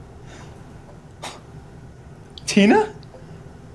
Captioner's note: Miles chuckles